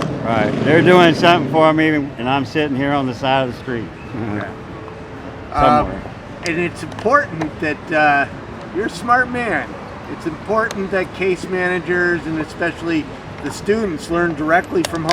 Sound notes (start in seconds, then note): 4.3 laughs